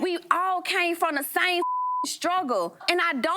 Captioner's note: beep